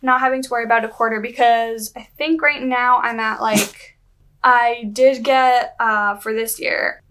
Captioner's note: Gooby sneezes